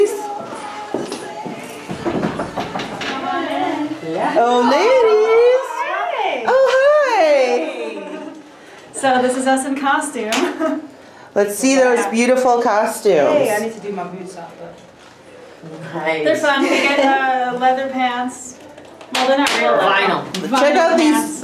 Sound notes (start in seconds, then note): 1.8 knocking; 6.4 exclaiming; 10.7 chuckling